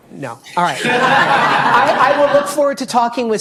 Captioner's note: audience laughing